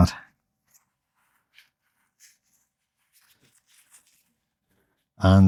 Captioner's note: silence